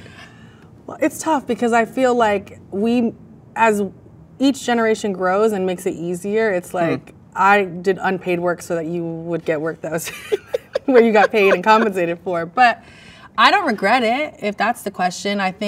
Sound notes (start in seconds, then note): 10.0 both laugh